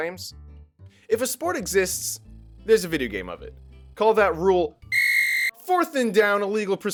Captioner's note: whistle